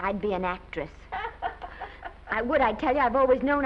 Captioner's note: Mattie laughs